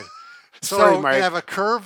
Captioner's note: laughing